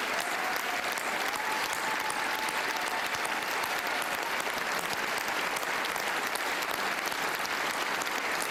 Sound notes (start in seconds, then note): 1.8 applause; 1.8 cheering